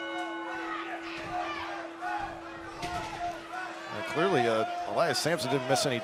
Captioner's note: bell ringing